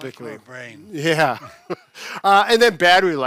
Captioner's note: chuckles